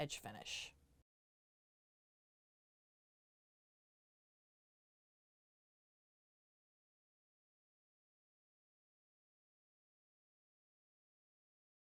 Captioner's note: no Sound Present